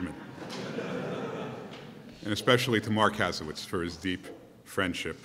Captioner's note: laughter